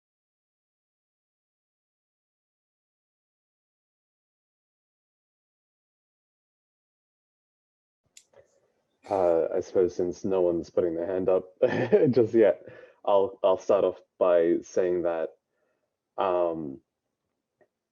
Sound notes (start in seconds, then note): 8.9 laughs